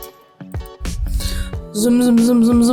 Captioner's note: inhales